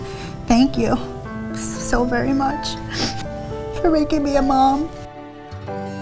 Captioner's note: sniffs